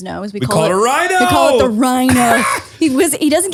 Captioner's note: laughs